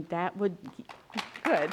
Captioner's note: applause